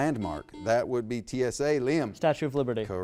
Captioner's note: buzzer beeps